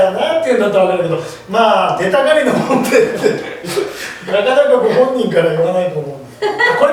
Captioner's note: laughs